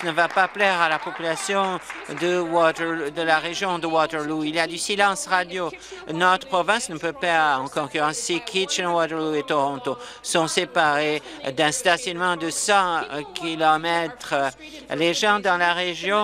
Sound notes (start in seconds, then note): 3.2 applause